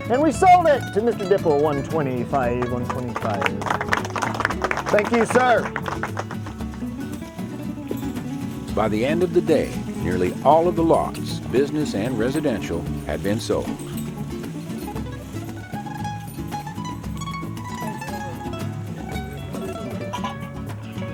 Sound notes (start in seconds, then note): 2.2 applause